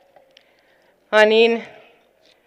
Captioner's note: non-english speech